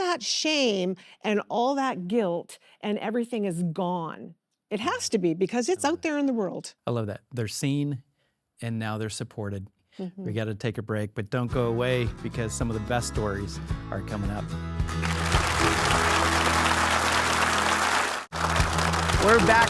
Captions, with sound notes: So all that shame and all that guilt and everything is gone. It has to be because it's out there in the world. - I love that, they're seen and now they're supported. - Mm-hmm. - We gotta take a break, but don't go away because some of the best stories are coming up. (warm upbeat music) (audience applauding)